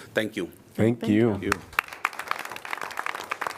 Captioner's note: applause